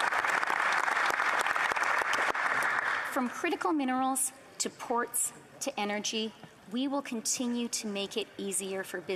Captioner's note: applause